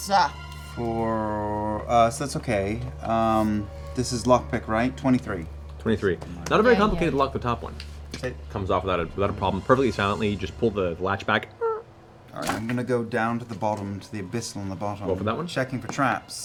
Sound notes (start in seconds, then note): 8.0 click; 12.2 creaks